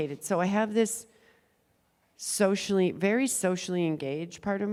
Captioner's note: none